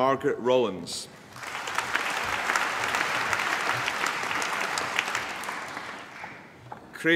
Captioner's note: applause